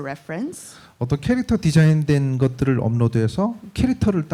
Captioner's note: speaking korean